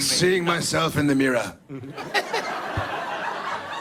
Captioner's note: Jared, raspy British voice; Mark and audience laugh